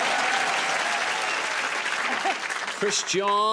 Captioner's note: laughter; cheers and applause